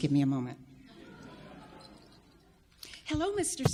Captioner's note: audience laughs